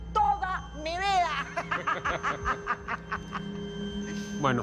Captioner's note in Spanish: Risas